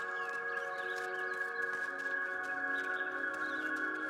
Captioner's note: gentle music; birds chirping